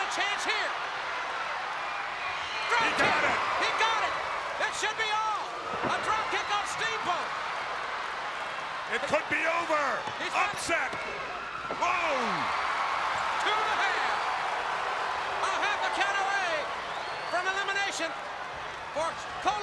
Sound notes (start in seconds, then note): 14.3 crowd cheering